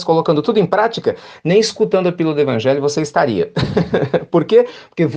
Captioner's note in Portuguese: risadas